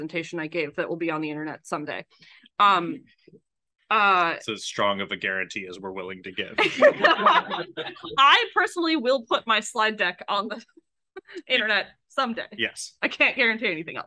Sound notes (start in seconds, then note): 6.6 laughs